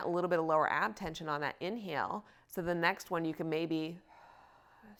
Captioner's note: exhales